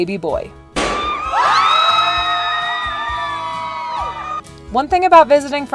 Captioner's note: party favor popping; people cheering